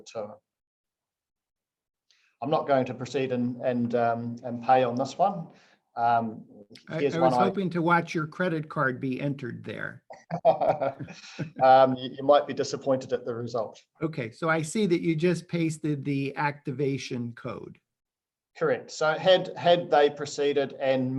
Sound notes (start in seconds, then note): 10.2 laughs